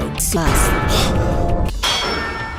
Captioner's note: Sigma gasps